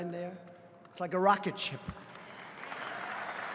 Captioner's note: applause